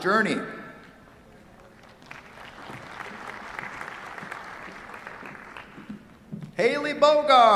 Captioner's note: applause